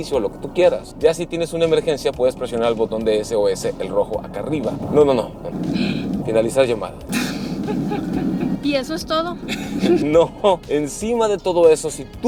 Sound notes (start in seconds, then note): 7.1 nervous laughing; 9.4 laughter